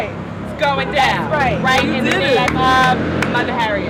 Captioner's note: clapping